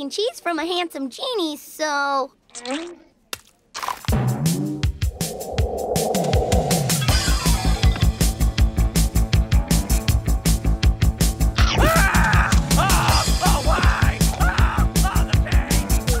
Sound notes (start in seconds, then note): 4.8 upbeat music; 11.7 cheese yelling